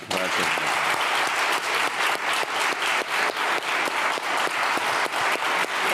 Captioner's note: everyone applauding